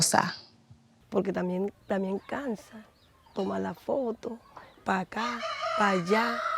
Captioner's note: speaking in foreign language